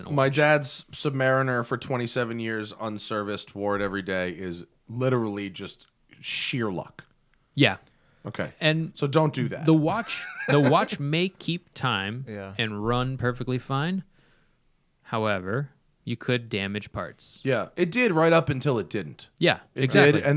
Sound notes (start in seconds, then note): 9.9 laughter